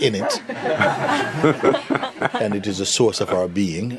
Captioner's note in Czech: smích